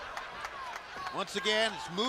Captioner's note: crowd chatter